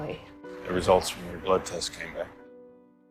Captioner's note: voiceover